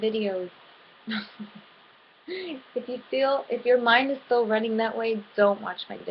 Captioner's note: giggle